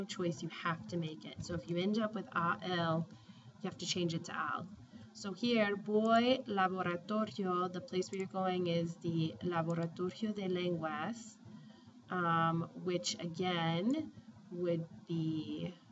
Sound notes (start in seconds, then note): 2.3 speaking spanish; 4.3 spanish; 5.4 speaking spanish